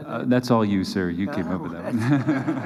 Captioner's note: laughter